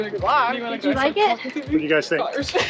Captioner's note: murmurs